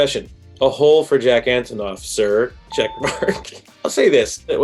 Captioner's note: laughs